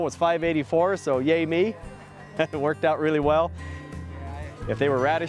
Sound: laughter

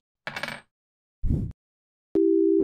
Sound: woosh

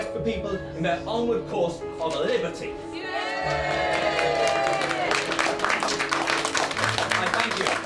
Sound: cheers

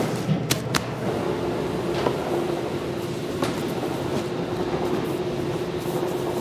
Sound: plastic crinkling; background machinery whirring

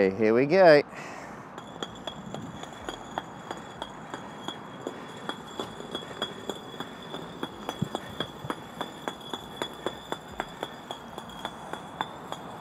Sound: bricks clunking

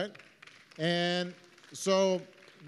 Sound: applause

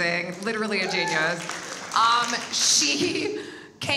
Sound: audience applauds

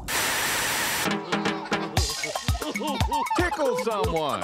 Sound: laughter

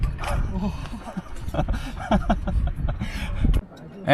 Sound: only laughter comes out

